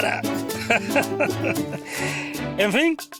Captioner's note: Don Mensio laughs